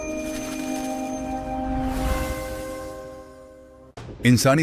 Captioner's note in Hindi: घंटी की आवाज़